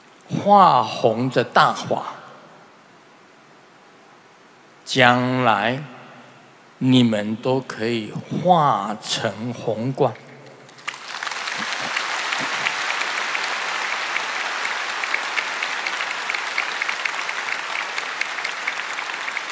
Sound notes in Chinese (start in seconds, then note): 10.7 眾鼓掌